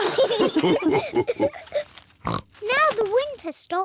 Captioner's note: all laugh